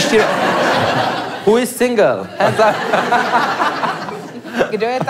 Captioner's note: laugh